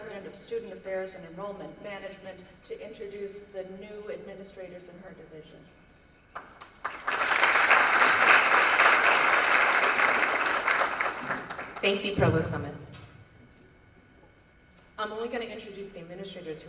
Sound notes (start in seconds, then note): 6.3 applause